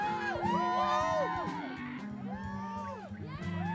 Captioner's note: cheering